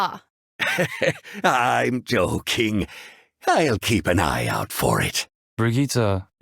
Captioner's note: chuckle